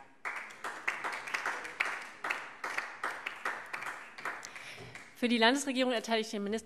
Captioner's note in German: Beifall DIE LINKE